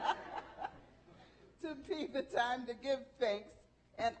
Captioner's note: laughing